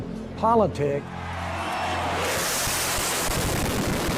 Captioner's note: cheering